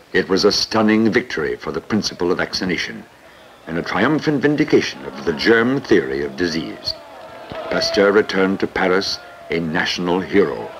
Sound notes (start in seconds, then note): 6.8 men cheering